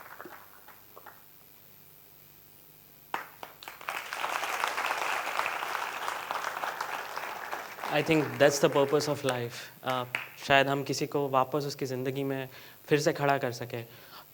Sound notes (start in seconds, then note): 3.1 applause